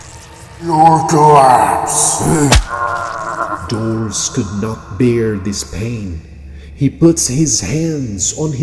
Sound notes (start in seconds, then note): 2.7 the goat bleats